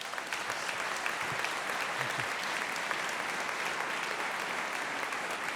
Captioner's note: applause